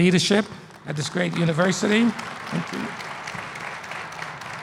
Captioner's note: applause